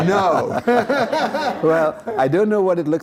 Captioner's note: laughter